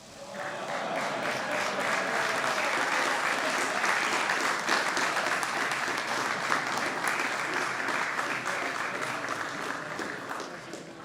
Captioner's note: applause and laughter